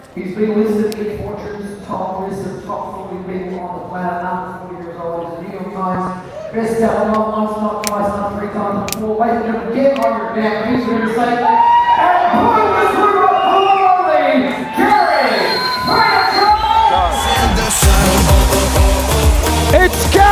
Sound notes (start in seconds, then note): 11.3 audience cheering; 17.1 upbeat music